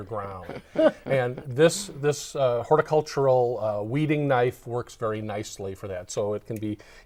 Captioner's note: laughing